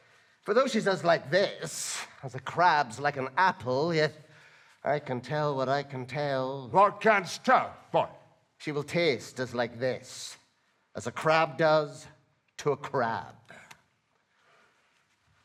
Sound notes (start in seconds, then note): none